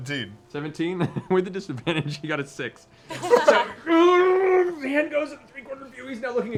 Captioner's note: laughs; groans